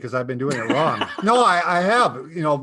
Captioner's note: laughs